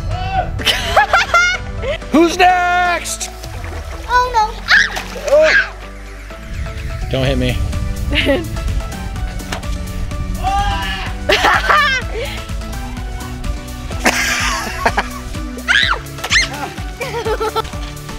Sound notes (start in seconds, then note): 0.6 laughter; 4.6 screaming; 10.6 yelling; 11.6 laughter; 15.8 yelling